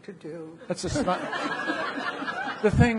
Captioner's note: audience laughing